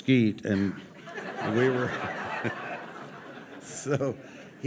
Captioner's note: audience laughing